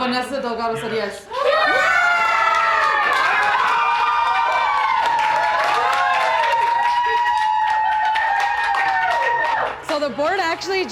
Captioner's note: cheering and applause